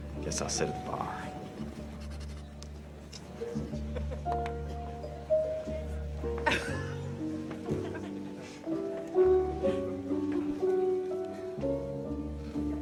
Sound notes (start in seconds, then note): 0.0 gentle music; 0.0 patrons chatter; 3.4 gentle music; 3.4 patrons chatter; 7.4 patrons laugh; 7.7 patrons chatter